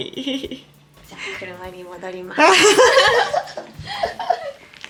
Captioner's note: laughter